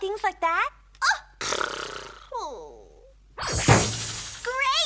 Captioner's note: gasps; sputters